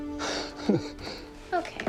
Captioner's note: Dad laughs